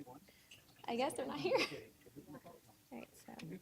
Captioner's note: chuckling